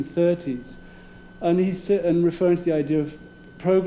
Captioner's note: none